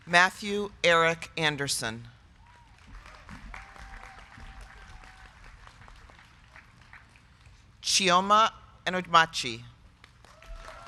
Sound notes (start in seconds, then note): 2.4 crowd clapping; 2.4 crowd cheering